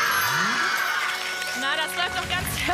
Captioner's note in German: Jubel